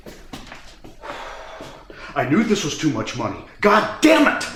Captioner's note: sighs